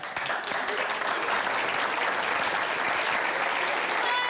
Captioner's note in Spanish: Aplausos